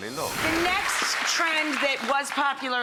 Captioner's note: audience clapping